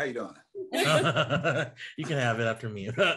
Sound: all laugh

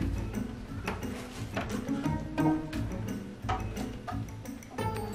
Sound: wood steps creaking

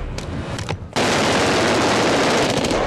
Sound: gunshots

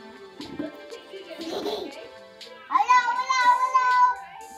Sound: laughing

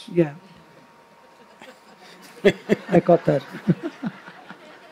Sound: laughter

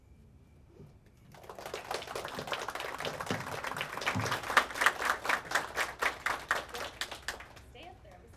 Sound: audience Clapping

